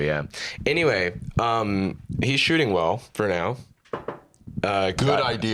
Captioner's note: knocks on table